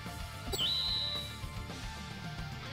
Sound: anime twinkle sound effect

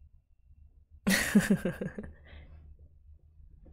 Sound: laughs

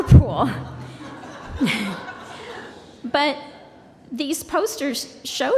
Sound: laughter

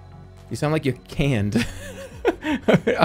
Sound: laughs

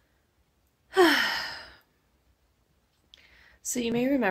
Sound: sigh

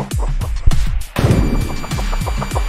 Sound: boom!

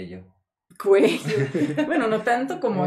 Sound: laughter

